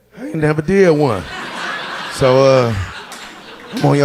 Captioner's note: audience laughing